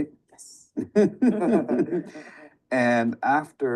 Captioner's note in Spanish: todos riendo